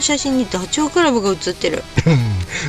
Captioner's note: laughs